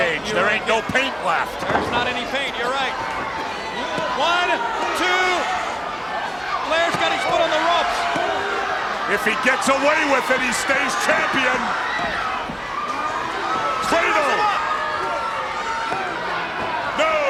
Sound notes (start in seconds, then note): 3.8 countdown thudding; 15.1 countdown thudding